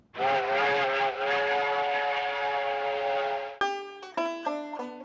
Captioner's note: shrill blast of a steam whistle